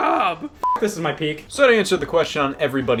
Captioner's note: beep